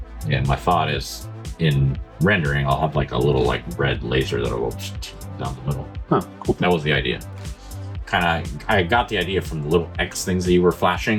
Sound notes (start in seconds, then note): 4.8 mouth noise